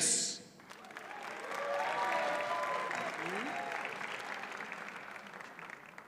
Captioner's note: audience cheers and applauds